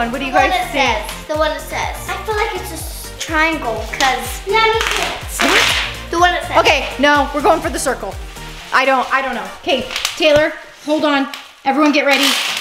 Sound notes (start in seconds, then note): 4.7 bubble wrap popping